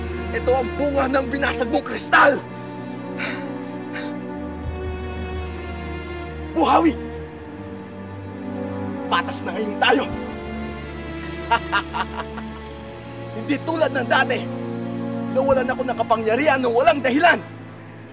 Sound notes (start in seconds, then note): 3.2 panting; 11.1 laughs